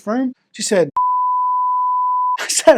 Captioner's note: beep